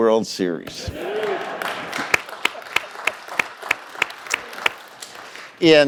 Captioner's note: laughter and applause